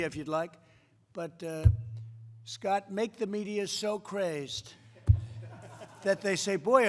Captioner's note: laughter